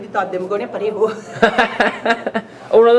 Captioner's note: laughs